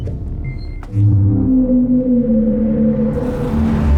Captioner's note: ship whirring